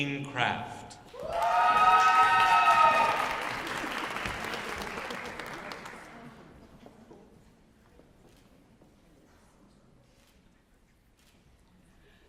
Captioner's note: cheering and Applause